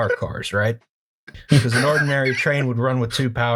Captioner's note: laughter